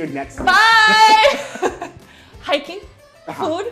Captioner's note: show hosts laughing